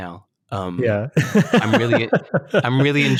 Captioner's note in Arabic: يضحك